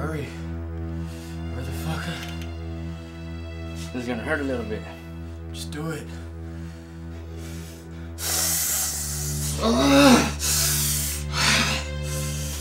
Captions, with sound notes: - Hurry, motherfucker. - This is gonna hurt a little bit. - Just do it. (Adriel winces and hisses)